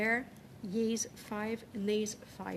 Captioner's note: speaking French